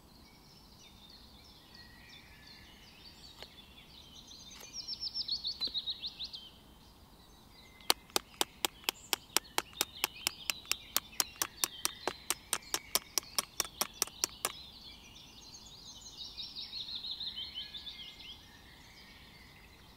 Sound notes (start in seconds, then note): 11.3 the sound of the scissors when we hit the grafting knife